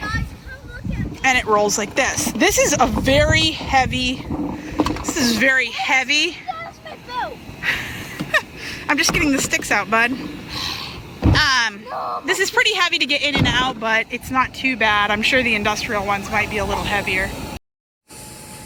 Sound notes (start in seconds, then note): 7.7 laughs; 10.7 sighs